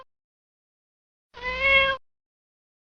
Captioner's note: meow...Meow